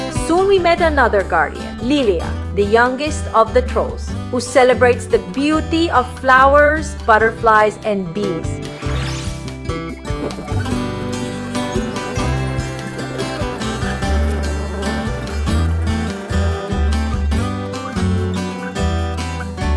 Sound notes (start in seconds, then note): 8.6 bees Buzzing